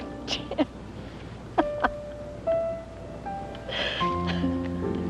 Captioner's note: laughter